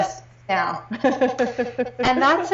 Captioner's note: laughing